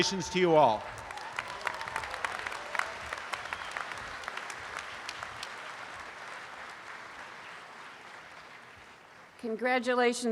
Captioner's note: audience applause